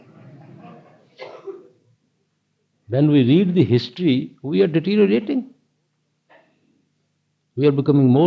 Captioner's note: laughter